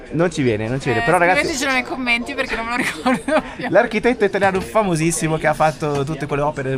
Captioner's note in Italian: risate